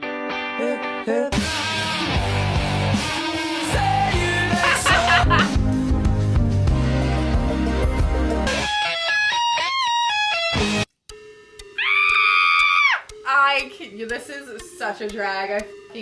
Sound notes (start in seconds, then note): 4.1 laughs; 11.7 screams